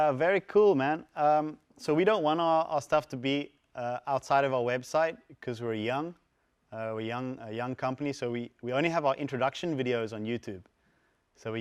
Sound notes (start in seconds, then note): none